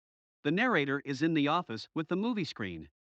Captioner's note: voiceover